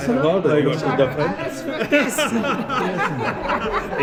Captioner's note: German